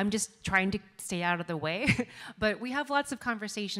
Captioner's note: laughs